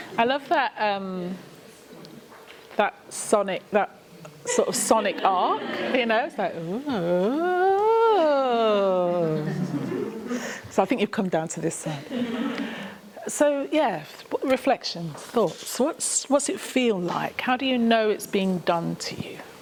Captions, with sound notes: I love that. That Sonic. That sort of Sonic ark? [MELODIC HUMMING OF GROUP CHATTER] So I think you've come down to this then. [LAUGHTER] So yeah. Reflections? Thoughts? So what's what's it feel like? How do you know it's being done to you?